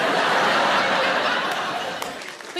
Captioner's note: audience laughing